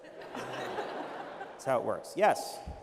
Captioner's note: laughter